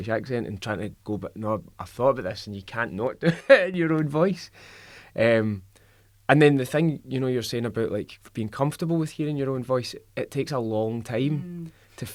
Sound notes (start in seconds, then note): 3.6 laughs